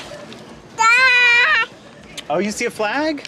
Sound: speaking gibberish

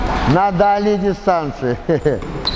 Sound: laughs

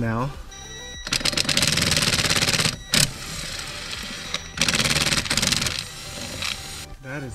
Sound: drilling

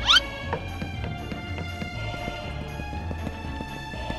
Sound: audio whistles; footsteps pattering

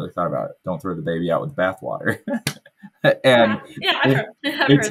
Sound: laughs happily

